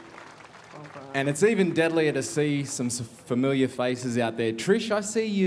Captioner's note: cheering and applause